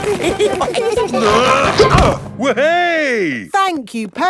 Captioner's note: all giggling; grunting